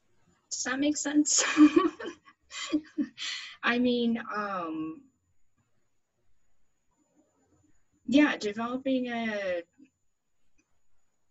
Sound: laughs

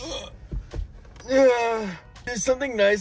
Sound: groans

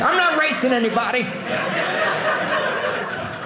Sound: audience laughing

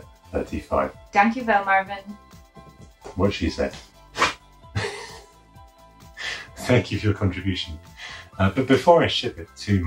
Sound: dog coughs

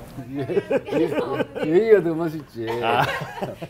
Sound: laughter

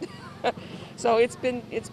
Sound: chuckles

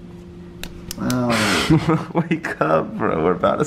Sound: light face slapping

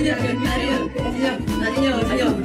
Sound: laughing

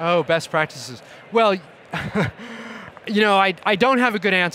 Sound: laughing

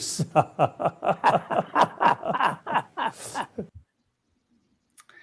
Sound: both men are laughing

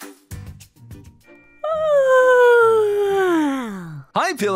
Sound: yawns

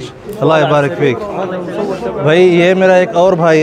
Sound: Arabic

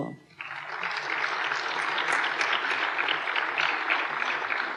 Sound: applause

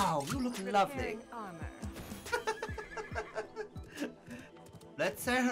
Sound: laughs

